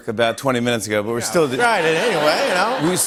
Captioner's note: laughter